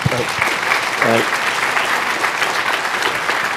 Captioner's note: applause